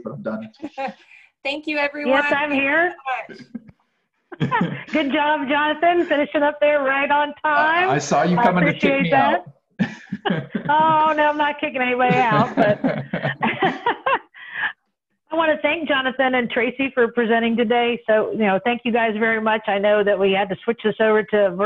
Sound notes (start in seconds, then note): 12.1 chuckling